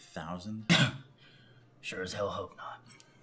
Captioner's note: Hank scoffs